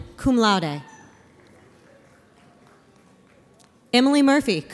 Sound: audience applauds

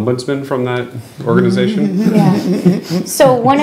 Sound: laughing

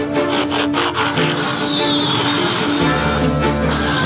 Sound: footsteps pattering; robot buzzing

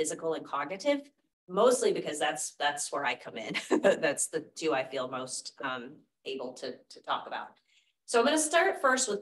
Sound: laughter

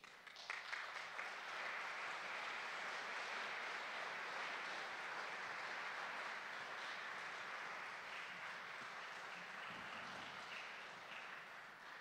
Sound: applause

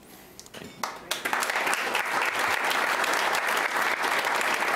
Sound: applauding

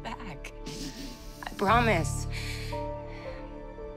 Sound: inhales deeply

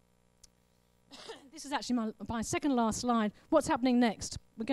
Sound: coughs

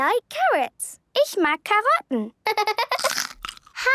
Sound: laughter

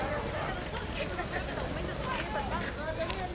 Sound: background chatter

